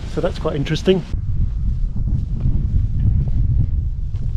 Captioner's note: wind blows